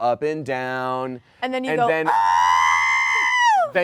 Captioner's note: yells